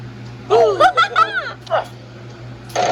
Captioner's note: Martin groans; Maria and Tomoko cheer